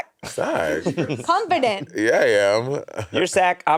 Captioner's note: all laughing